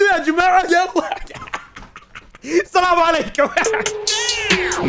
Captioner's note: laughing